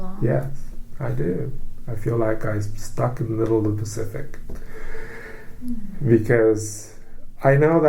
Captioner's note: inhales